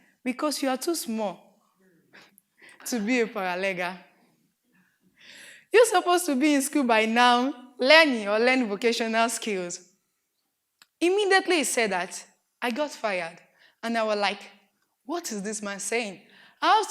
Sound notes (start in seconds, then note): 1.8 laughing